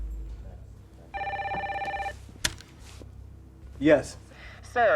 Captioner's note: phone rings